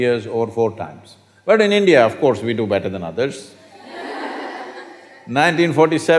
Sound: laughter

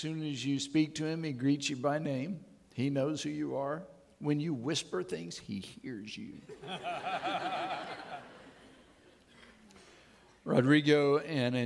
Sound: audience laughing

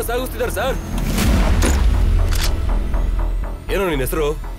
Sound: drawyer Open Sound

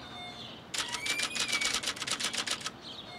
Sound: swing creaks; typewriter clanks

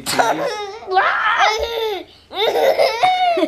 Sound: laughing

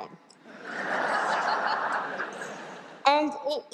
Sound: laughter

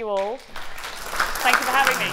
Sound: audience clapping

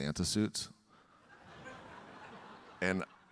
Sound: audience laughing

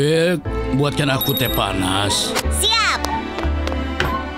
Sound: bell dings

